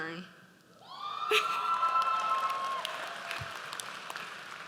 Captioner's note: audience cheers